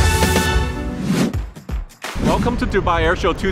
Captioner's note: upbeat music; whooshing